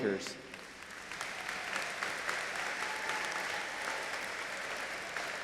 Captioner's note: audience applauding